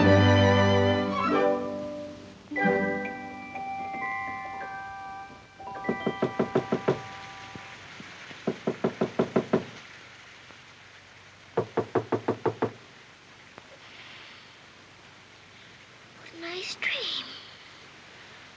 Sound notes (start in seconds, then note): 5.7 Knocking